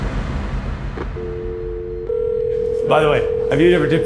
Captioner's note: dial tone ringing